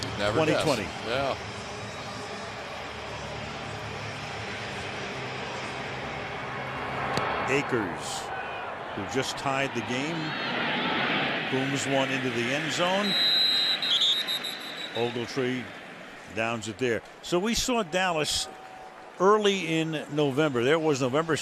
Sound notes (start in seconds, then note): 12.6 whistles